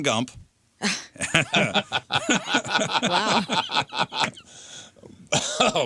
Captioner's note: laughing